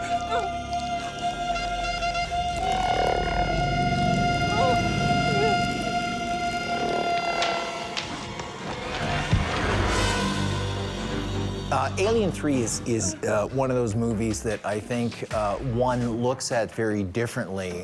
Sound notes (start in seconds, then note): 0.0 heavy breathing; 4.6 whimpering